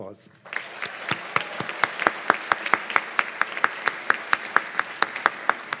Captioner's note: cheers and applause